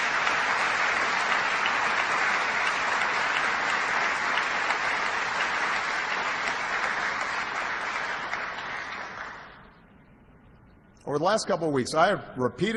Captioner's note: applause